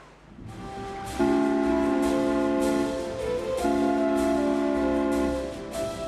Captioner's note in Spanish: silbato